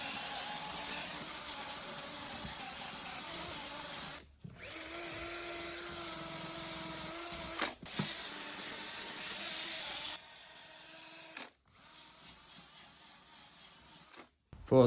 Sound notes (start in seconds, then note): 0.5 tool sounds